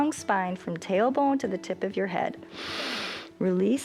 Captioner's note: inhales